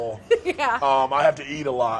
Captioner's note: laughing